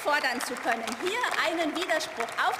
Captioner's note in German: Beifall